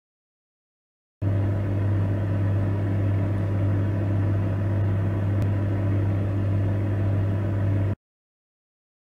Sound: sound of fridge motor

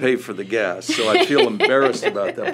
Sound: laughter

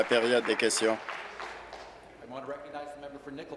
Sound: applause

